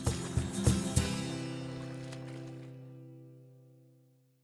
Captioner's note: water splashing